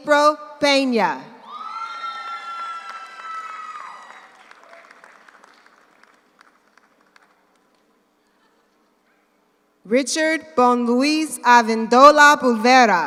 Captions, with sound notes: April Peña. (audience cheers) (audience applauds) Richard Bon Louis Avendula Pulvera.